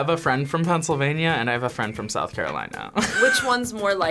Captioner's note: laughs